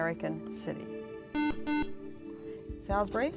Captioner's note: buzzer